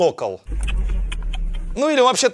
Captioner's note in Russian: Цоканье